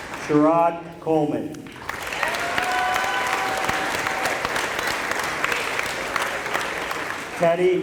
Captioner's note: applause